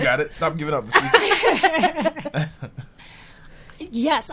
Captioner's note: group laughing